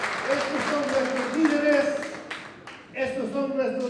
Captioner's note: non-english speech